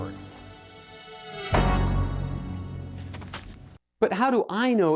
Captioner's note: dramatic music; feet thudding